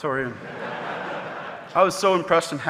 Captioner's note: audience laughing